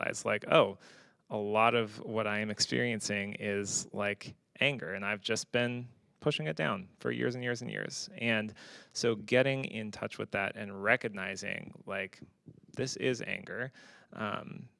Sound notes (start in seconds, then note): none